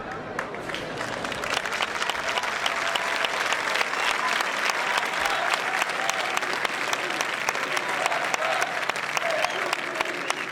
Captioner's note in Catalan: aplaudiments